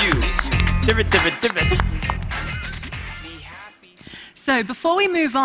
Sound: imitating record scratching

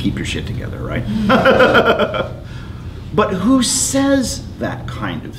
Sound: laughs

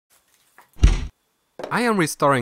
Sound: bang

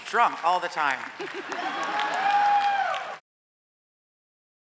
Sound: audience cheers

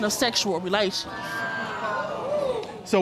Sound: audience exclaims in surprise

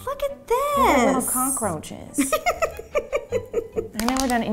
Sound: giggles

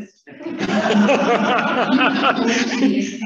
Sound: laughing

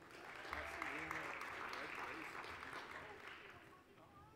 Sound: applause

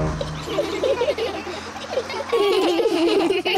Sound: all giggle

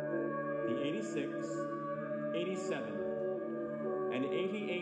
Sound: male Voice

